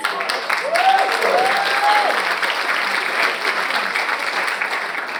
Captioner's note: audience applauds